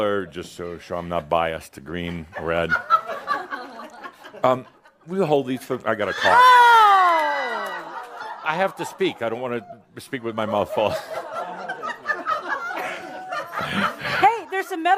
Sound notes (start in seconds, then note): 2.0 giggles as he puts them in his mouth; 10.5 more laughter